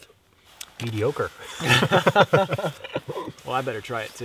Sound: both laugh

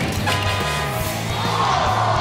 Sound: crowd cheering; train whistle

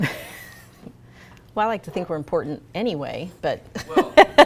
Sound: laughs

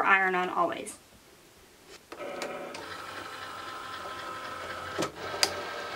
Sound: machine whirs and beeps

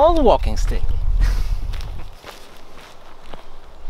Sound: chuckles

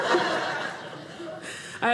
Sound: audience laughing

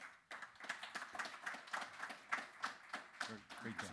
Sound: clapping

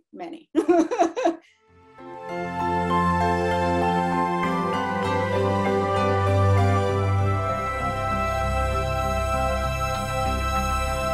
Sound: laughter

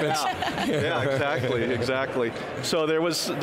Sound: laughing

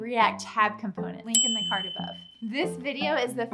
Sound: bell rings

